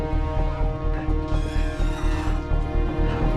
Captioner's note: metal creaks